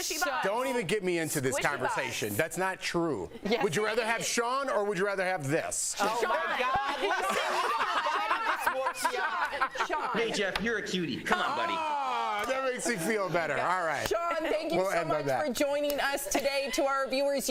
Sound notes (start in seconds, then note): 10.1 laughter